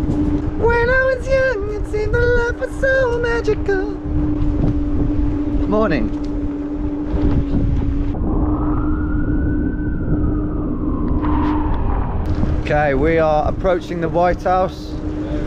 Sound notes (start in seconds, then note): 6.6 scooter whirring; 8.3 siren wailing